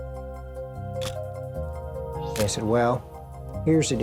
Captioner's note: camera shutter click